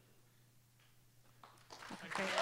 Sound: applause

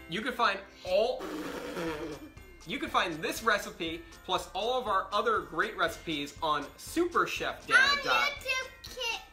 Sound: blows raspberry

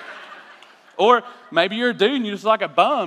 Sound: laughter

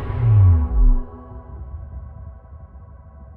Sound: deep booming hum

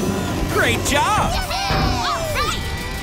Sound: cheering

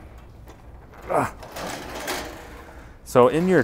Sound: grill rattling

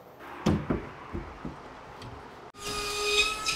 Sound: boards thumping; saw buzzing; nail gun thumping

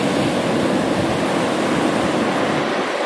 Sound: wind

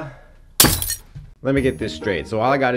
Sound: broom and dustpan crashing

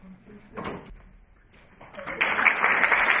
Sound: applause

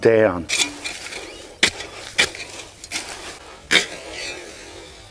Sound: hoe rustles continuously

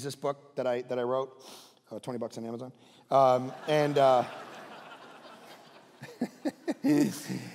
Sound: congregation laughing

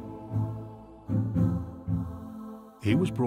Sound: dramatic music; people vocalizing

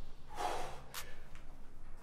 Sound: exhales

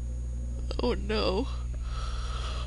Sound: yawns

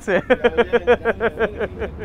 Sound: ríe

